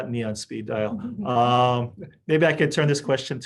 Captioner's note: panelists chuckling